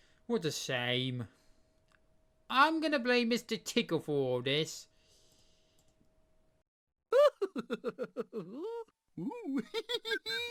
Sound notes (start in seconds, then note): 7.1 mr tickle chuckling